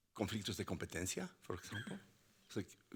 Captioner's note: speaking Spanish